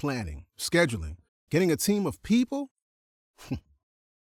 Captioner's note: chuckles